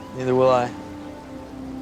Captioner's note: none